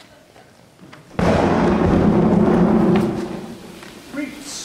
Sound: thunder roaring

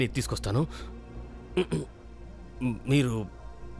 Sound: clears throat

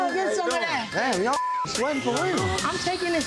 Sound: beep

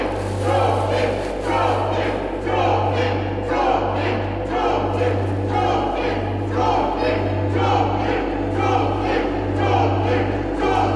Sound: crowd chanting

